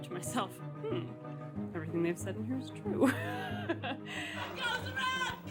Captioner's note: laughs